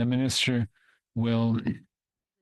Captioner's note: speaking French